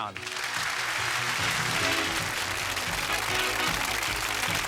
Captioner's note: cheers and applause; upbeat music